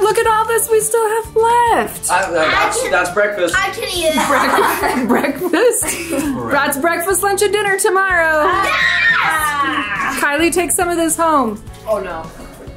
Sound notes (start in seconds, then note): 4.0 all laughing